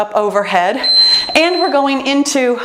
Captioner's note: timer beeps